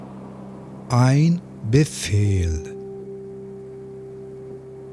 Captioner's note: german